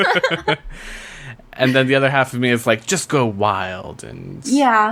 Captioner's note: laughs